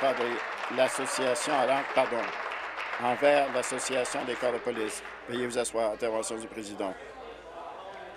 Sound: applause

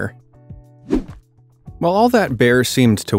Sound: air whooshes

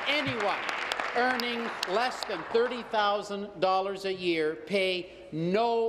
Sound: applause

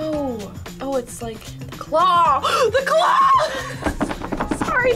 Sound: gasps

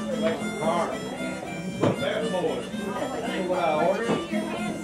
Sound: harmonica music; people chattering

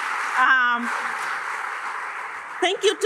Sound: applause

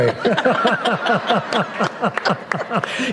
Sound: laughter

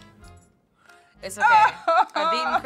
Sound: laughs

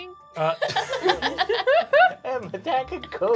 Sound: laughing

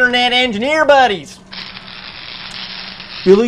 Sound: more electric crackling

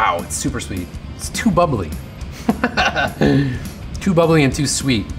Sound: laughs

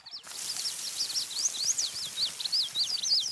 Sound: birds chirp

